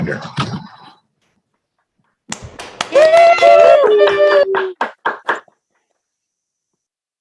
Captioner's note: applause